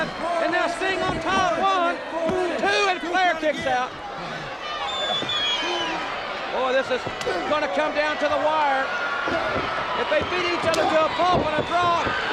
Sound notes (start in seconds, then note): 1.6 countdown thudding; 4.7 crowd cheering